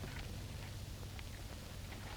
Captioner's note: clatter